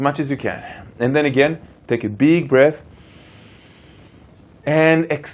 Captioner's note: breaths in deeply